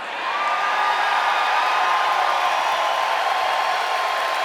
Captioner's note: cheering and applause